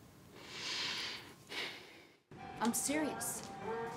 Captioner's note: breathing heavily